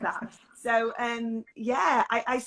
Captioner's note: laughs